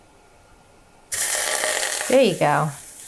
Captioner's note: water sizzling